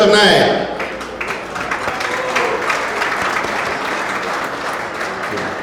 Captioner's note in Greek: το ακροατήριο χειροκροτεί